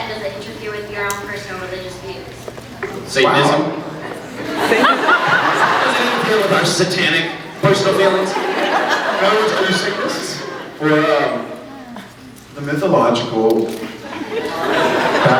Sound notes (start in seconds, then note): 3.9 laughs; 8.2 scattered laughs; 14.0 scattered laughs